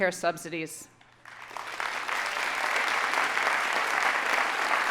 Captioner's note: audience applauding